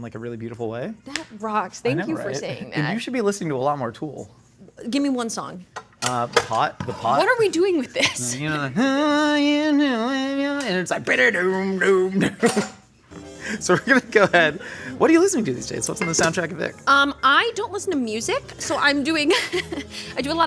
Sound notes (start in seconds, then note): 8.2 vocalizing; 12.7 vocalizing guitar; 19.2 chuckles